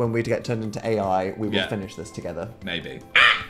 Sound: shrieks

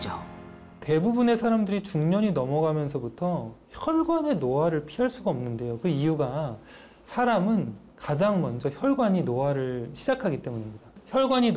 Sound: voiceover

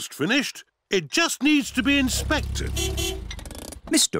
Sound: horn beeps

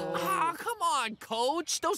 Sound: all groaning

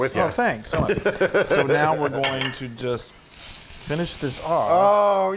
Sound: laugh

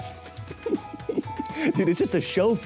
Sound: laughing

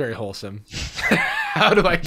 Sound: laughter

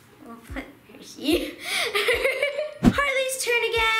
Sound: laughing

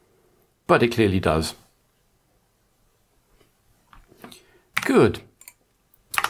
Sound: blank Audio

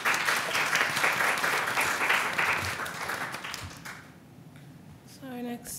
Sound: applause

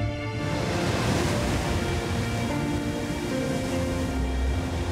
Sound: water splashing

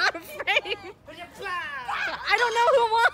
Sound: laughs; screaming

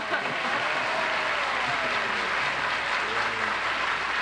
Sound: cheers and applause

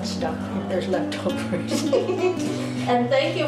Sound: nuns laughing

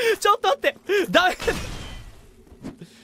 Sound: sobs; breathes

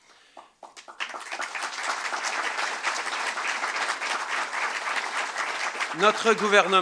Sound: applause

